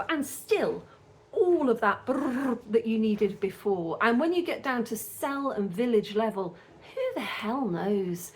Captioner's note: brrr